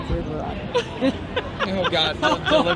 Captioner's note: laughing